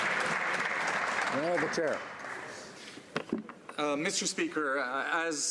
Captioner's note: some Applause